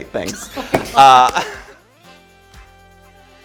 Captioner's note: laughter